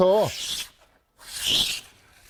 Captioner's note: planing sound